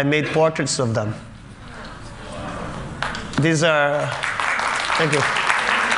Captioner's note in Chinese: Applause; 掌聲